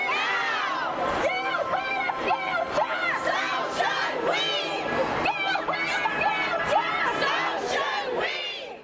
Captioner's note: crowd yells